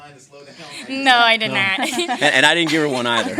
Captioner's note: laughs